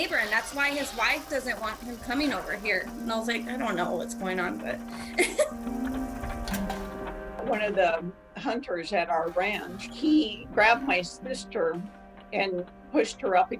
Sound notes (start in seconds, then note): 4.9 laughs